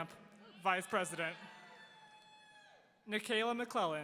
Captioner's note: audience cheering